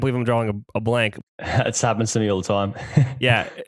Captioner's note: laughs